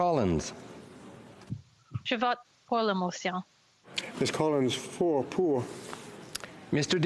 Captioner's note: speaking FRENCH